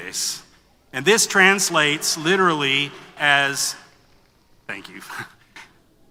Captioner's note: foreign language; brief laughter